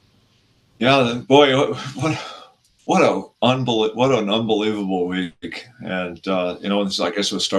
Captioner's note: exhales heavily